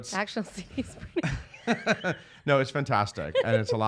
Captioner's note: laughs